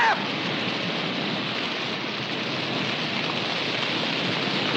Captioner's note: fire crackling